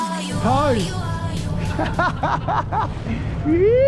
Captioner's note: laughing